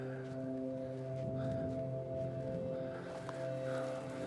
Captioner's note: breathing heavily